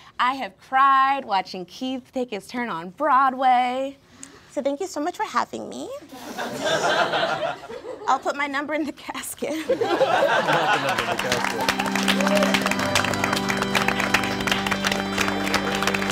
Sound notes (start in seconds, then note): 6.1 all laughing; 10.0 all applauding; 13.1 sad organ music